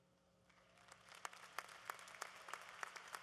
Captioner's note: applause